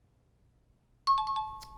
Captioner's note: high-pitched tones